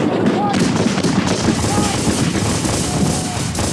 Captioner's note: guns bang